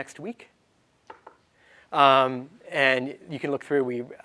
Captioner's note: knocks